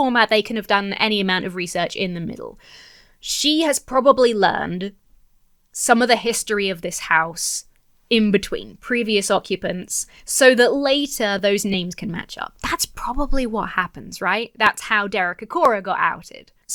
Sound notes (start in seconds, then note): none